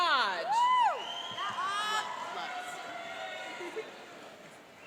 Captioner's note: cheering and applauding